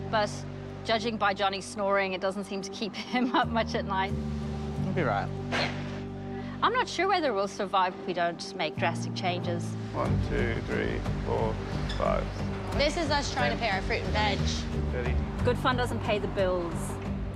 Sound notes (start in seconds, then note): 2.1 laughing; 5.4 sighs